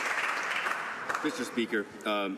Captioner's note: some Applause